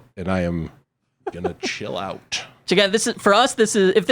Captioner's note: laughs